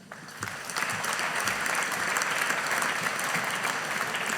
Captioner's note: audience applauding